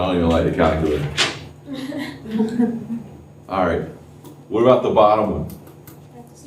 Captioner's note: laughter